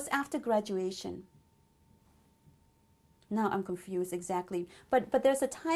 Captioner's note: pauses for 3 seconds